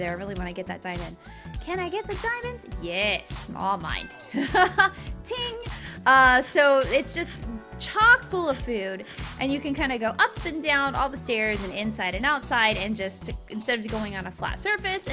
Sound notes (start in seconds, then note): 3.9 game chiming; 4.3 laughing